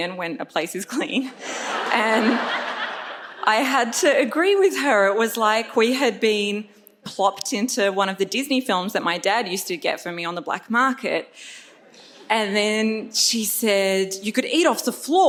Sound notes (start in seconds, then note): 1.4 audience laughs